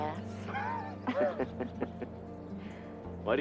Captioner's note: both laughing